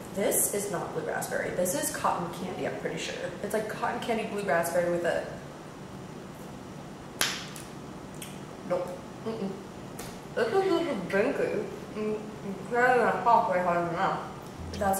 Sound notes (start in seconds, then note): 7.2 lollipop snaps; 8.1 smacking lips